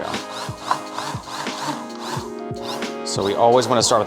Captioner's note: blender buzzing